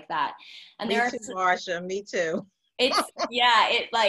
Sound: laughs

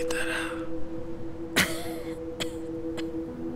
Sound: caveman coughs

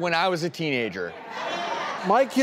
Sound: audience applause

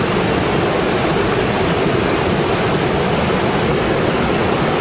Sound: water rushing loudly

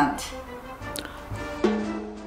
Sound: gasps

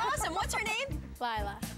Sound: chuckling

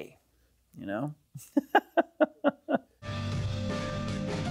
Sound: laughs

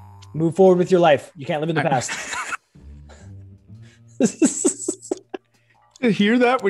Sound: laugh

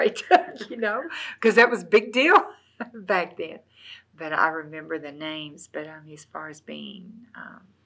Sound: laughs

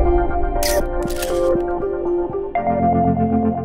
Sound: camera snapping

